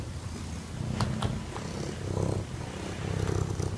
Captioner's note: cat purring